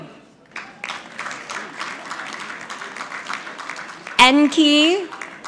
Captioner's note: audience clapping